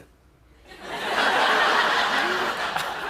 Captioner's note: laughter